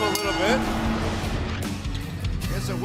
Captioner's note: crowd cheering